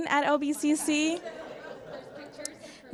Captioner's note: laughing